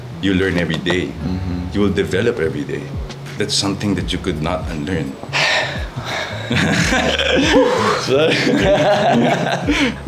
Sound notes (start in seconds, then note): 5.3 sighs; 5.4 laughs